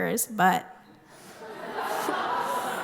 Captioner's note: laughter